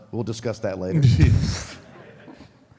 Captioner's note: audience laughs